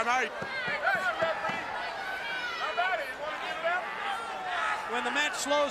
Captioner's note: crowd chatter